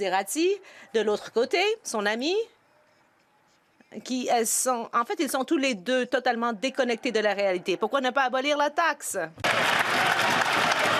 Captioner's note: some Applause